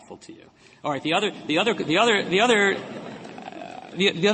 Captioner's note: laughter